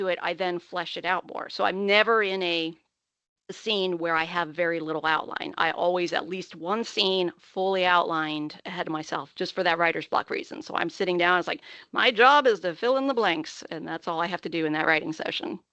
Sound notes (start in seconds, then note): none